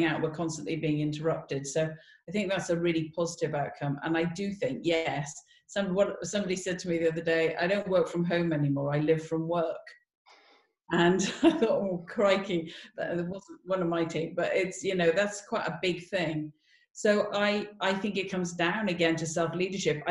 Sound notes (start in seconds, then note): 11.1 laughs